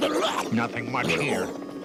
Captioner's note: brain barking